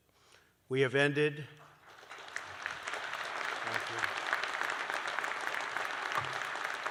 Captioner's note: applause